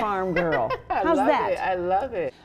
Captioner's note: laughs